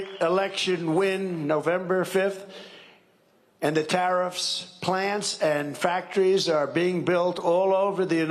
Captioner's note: cheering and applause